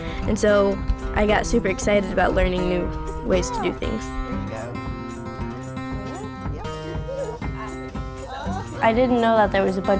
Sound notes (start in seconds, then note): 5.6 upbeat guitar music; 8.2 chatting